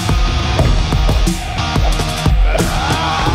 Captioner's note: air whooshing; The Angel groans